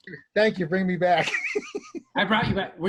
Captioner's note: laughing